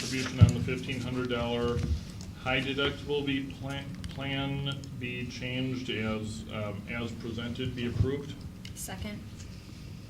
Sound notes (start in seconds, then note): none